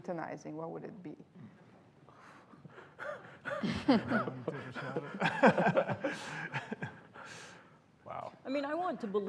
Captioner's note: laughter